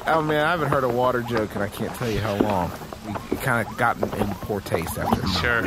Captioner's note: laughs